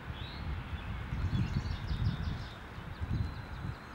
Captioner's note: birds chirping